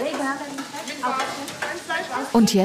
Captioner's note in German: Stimmengewirr